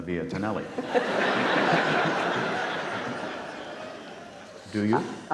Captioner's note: audience laughs